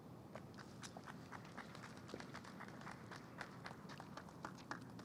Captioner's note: audience apllaud